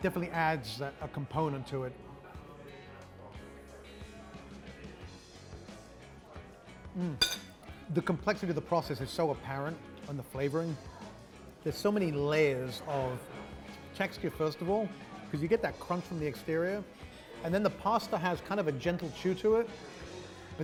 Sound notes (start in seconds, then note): 2.4 soft rock music; 7.2 knife clanks